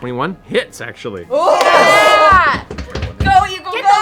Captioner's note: cheering